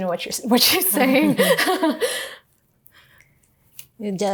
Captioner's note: both laughing